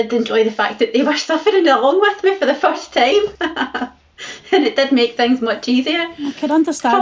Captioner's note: laughs